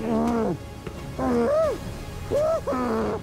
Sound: frantic grunting

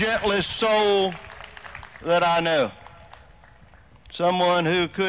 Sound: applause

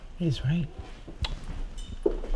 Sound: tsks

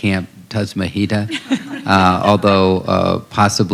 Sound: laughter

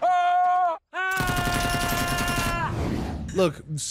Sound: Vigilante screaming; gunshot banging

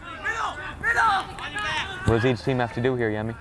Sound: players talking and yelling

